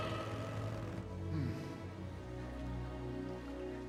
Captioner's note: sighs